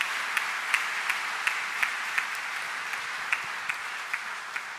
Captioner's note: audience applauds